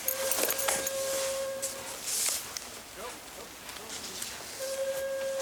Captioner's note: whistle in distance